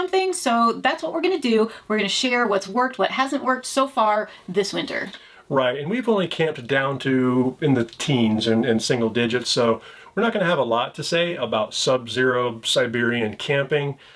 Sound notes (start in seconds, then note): none